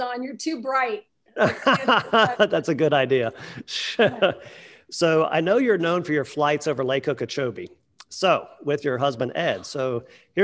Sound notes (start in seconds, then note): 1.4 laughing; 3.2 chuckles